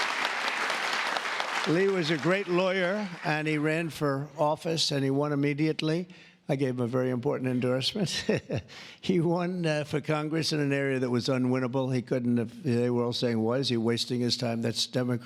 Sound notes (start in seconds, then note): 2.0 applause